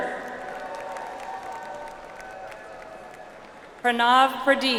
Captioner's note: audience applauds